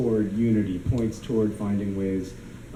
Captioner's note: none